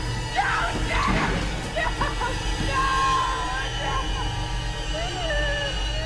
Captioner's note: wails